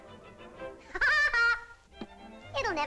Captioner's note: laughs